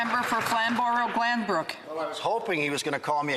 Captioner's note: some Applause